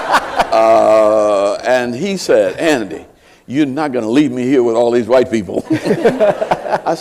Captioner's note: laughter